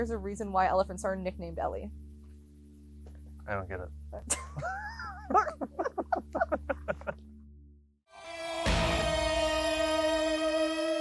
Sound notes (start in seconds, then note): 4.2 laugh; 8.2 dramatic music